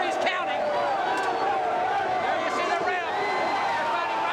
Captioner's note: crowd chatter